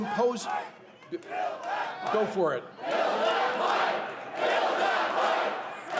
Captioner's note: cheers and applause